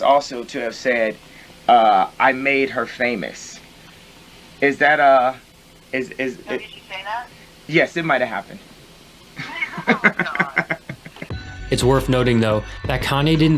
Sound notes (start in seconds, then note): 9.4 laughing